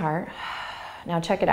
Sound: exhaling

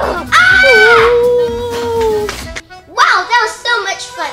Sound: screaming

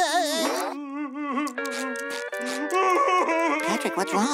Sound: crying; Patrick crying

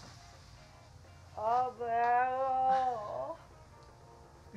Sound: Franky groans again

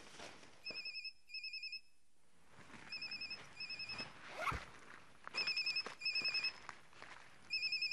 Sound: cell phone ringing

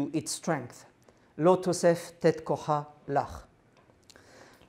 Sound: non-english speech

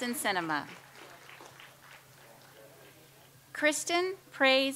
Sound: audience applauds

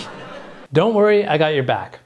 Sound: audience laughs

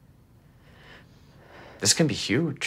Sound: Sam breathes deeply

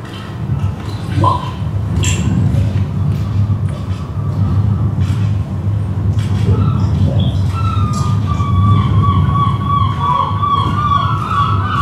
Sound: seagulls cry & water dripping

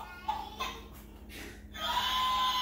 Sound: rooster crowing

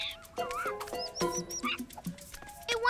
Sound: squeaky chittering

